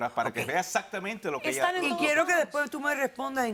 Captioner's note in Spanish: Hablan al unísono